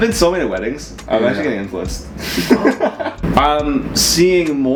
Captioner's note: laughing